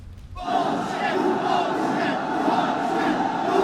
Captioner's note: chanting